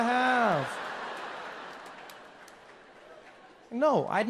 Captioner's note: audience laughs